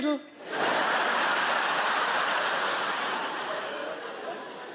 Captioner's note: audience laughing